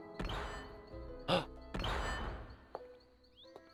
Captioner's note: gasp